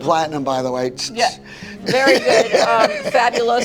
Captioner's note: laughs